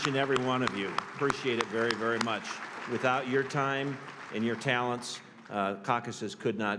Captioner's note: applause